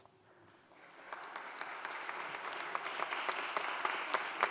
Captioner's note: audience applauding